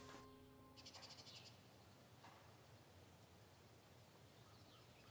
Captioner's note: birds squawking